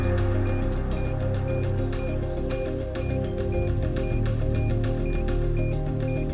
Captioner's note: suspenseful music continues; beeping quickens